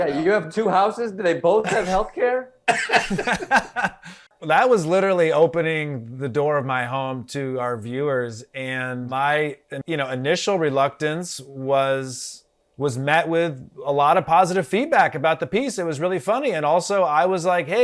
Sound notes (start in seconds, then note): 2.6 Eric laughs